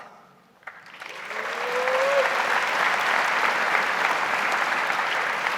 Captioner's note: audience applauds